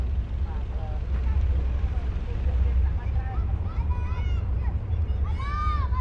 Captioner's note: indistinct chatter